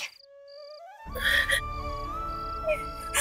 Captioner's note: crying